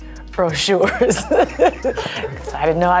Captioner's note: and crew laugh